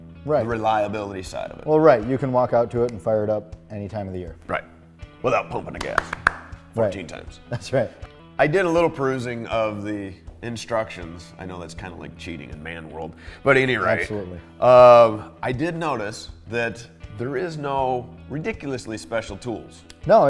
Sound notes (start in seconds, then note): 5.4 claps hands; 7.5 laughs